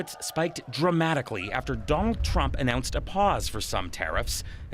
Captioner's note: cheers and Applause